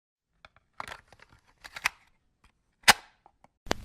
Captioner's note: cassette tape; static